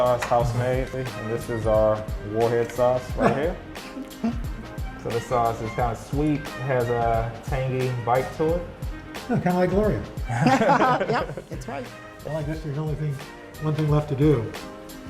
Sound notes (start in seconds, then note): 10.2 laughter